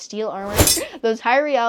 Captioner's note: metal clangs